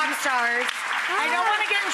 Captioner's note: hands clapping